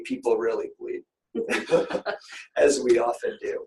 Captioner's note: laughter